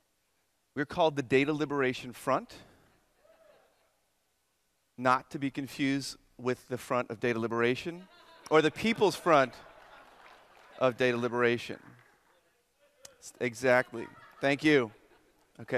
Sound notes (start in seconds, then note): 8.3 audience laughter